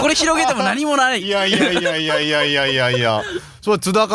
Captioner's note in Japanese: 笑い